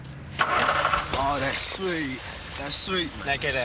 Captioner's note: starts car